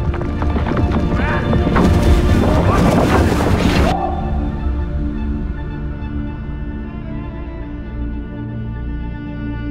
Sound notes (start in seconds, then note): 2.4 people talking